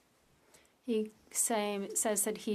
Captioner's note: speaking French